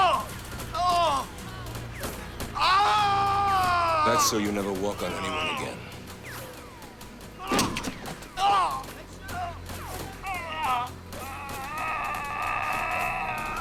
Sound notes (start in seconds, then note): 0.0 gun fires; 0.2 Lamont cries out; 7.8 Lamont moans